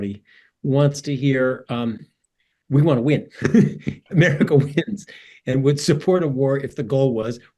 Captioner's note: laugh